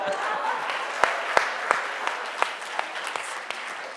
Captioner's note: Roxane chuckles; audience applauds